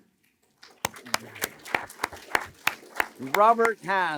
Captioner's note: applause